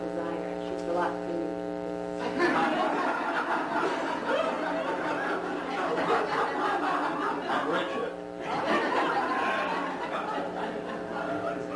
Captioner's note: laughter